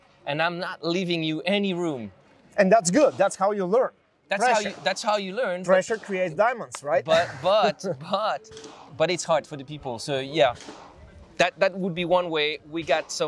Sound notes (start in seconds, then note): 7.1 chuckles